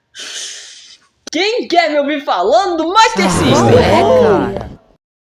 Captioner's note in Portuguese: Suspiro